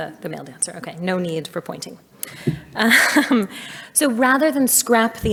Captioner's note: laughs